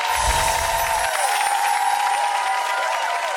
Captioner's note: wind chimes; audience applause